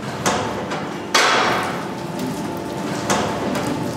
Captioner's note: metal opening noises